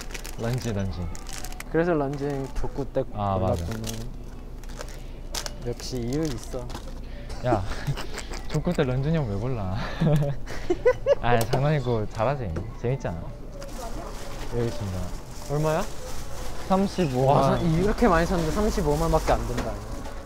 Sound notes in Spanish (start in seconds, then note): 10.0 Jajaja